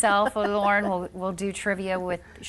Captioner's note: laughing